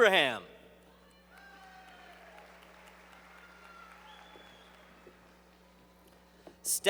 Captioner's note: applause